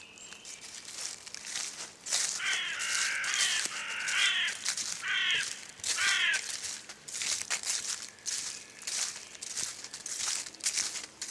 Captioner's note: bushes rustle